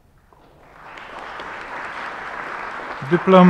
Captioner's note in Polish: oklaski